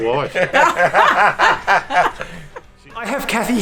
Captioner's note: laughs